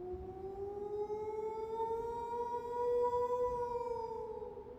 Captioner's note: wolf howls